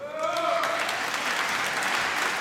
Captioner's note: applause